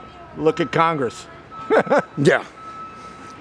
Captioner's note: laughing